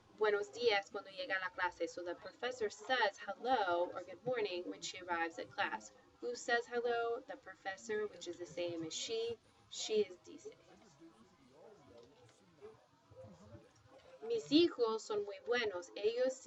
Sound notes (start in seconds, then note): 4.8 spanish; 8.5 speaking spanish